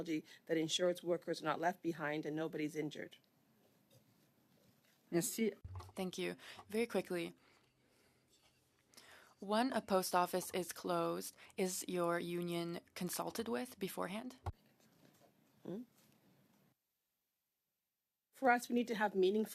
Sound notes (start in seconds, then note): 12.7 speaking French